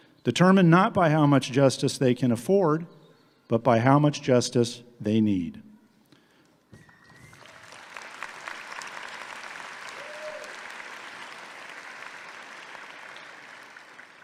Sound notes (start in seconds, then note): 6.8 audience clapping